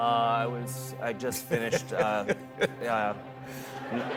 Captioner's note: laughter